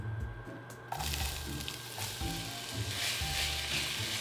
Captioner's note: sizzling